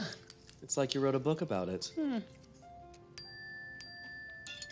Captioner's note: cellphone chimes